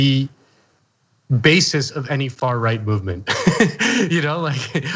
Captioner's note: laugh